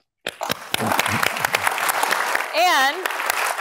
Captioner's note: applause